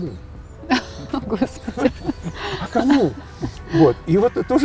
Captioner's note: laughing